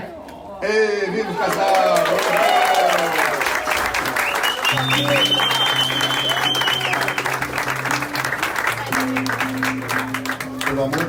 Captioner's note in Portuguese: aplausos